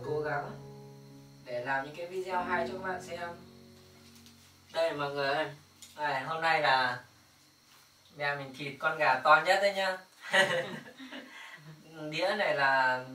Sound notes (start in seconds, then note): 10.2 giggle